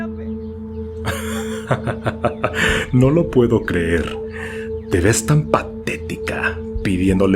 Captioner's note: laughs